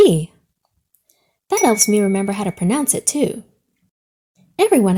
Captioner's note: light bulb dings